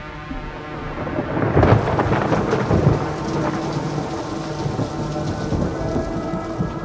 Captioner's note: rain pattering; thunder rumbling